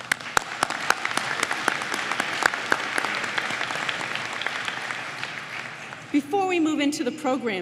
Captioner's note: applause